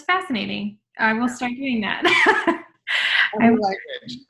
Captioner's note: laughs